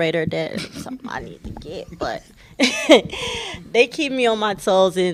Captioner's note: laughter